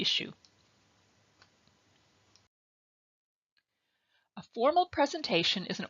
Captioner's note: silence